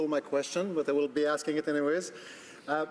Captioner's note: speaking French